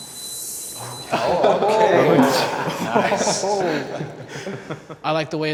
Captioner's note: guy sighs; everyone laughing